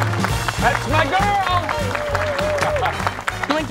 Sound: cheering, applause

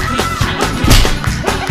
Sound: slap

